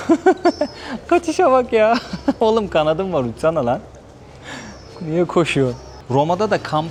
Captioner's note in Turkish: kahkaha